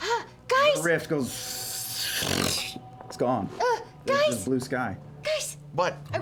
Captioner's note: tearing